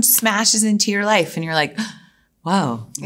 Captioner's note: gasps